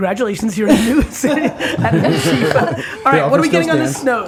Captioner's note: laughing